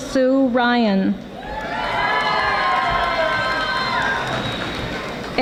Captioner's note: audience applauding